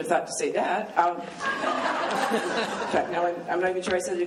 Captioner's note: laughing